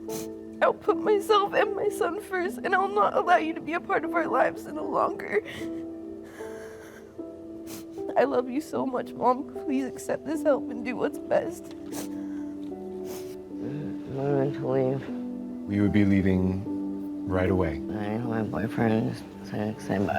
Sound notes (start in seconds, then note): 5.3 shaky breathing; 11.3 crying